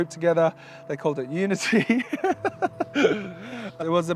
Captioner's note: laughs